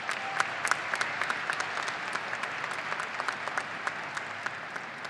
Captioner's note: audience applauding and cheering